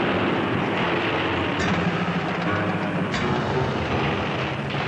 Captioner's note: explosions booming continues